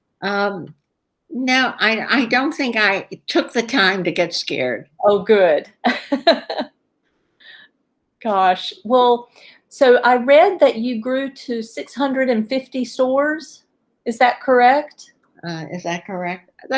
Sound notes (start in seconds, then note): 6.8 laughs